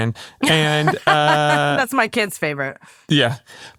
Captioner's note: laughs